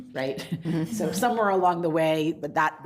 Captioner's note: group laughs